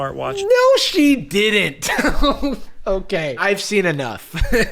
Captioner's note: laughs